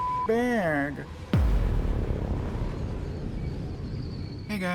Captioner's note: cinematic boom